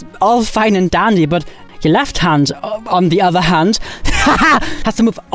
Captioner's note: laughs